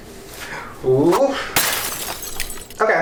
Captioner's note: plates crash